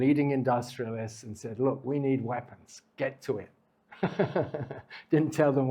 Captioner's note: laughs